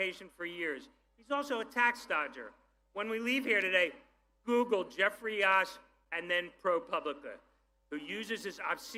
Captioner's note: none